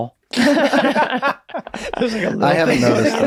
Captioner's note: Charlie, Meg, and Rob laugh